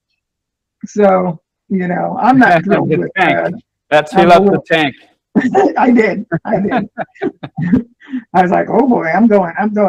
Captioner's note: laughter